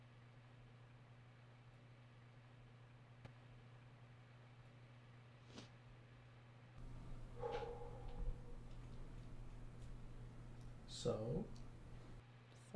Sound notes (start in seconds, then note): 6.9 sniffing; 7.6 exhaling loudly